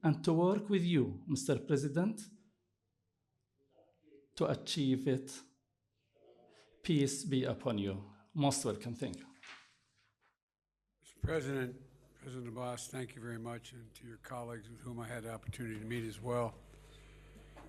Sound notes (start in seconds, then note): 8.0 in Arabic